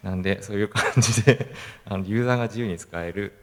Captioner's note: laugh